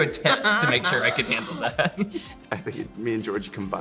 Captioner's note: Joy laughing; laughing